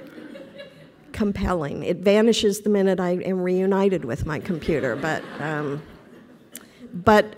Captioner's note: laughter